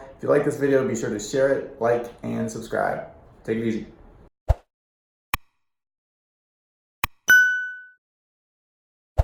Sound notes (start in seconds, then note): 7.3 bell tinging